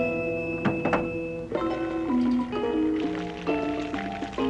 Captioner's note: water pouring